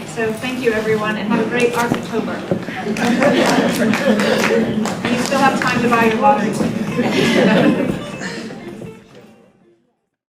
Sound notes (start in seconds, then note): 2.7 group laughter; 3.0 applause; 6.9 group laughter